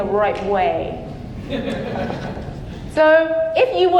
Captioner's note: audience laughing